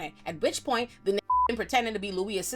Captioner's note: beep